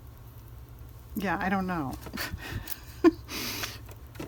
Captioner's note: laughs